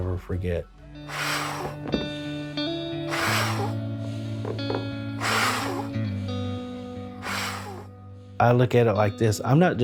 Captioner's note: blows hard into bottle